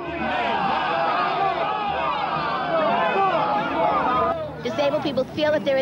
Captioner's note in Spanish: Manifestantes corean "504, 504..."